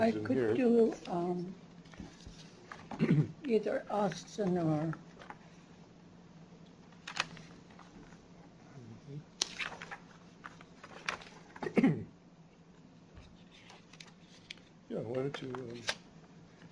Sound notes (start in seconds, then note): 6.9 flipping pages